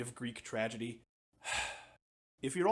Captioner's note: sigh